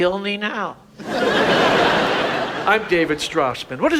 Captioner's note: audience laughs